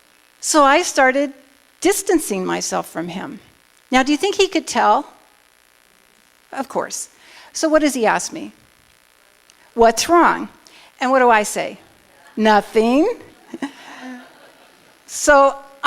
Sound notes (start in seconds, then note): 13.2 laughing